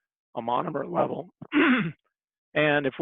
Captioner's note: clears throat